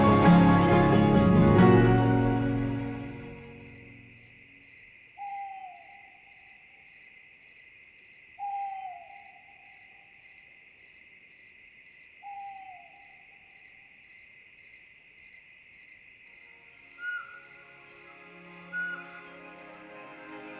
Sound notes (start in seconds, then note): 3.1 cricket chirping; 5.2 owl hooting; 6.5 cricket chirping; 8.4 owl hooting; 9.7 cricket chirping; 12.2 owl hooting; 16.9 bird chirping; 20.3 cinematic music